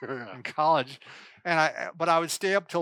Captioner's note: both laugh